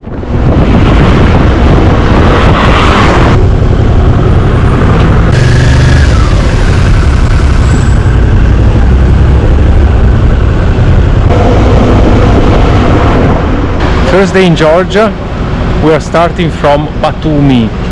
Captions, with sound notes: [motorbike engine] First day in Georgia, we are starting from Batumi.